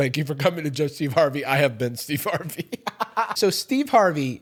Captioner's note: laughs